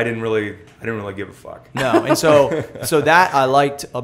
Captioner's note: laughter